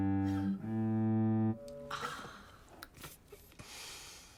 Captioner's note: groans lightly